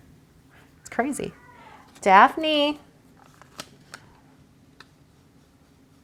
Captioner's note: laughs; cat meows